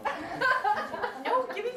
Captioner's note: background laughter